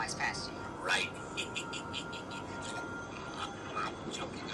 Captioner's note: laughs